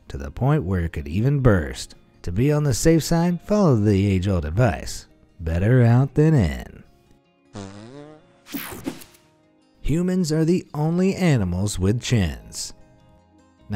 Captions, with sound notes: to the point where it could even burst. To be on the safe side, follow the age old advice, better out than in. (woman farting) (soft music) Humans are the only animals with chins.